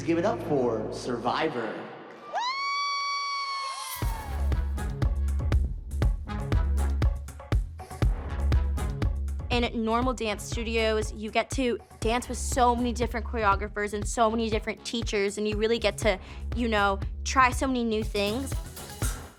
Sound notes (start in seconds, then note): 2.2 cheering; 3.6 upbeat dance music playing